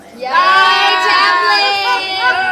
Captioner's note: all shouting